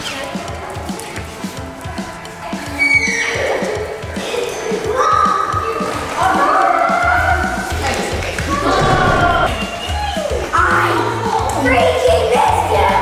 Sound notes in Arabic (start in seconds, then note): 2.9 أنين كلب